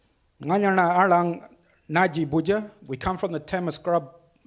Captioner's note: speaks foreign language